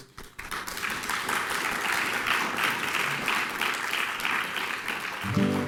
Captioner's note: clapping